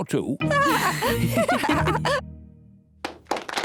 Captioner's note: lady pigs giggle